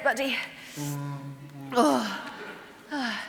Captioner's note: moans